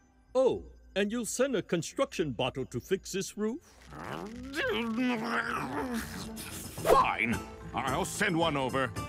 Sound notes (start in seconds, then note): 3.8 grumbling in frustration